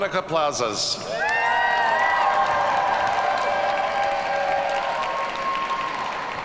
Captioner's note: audience cheers and applauds